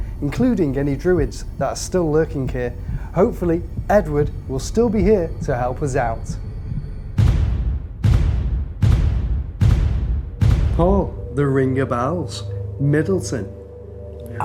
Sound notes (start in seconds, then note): 7.4 ominous bangs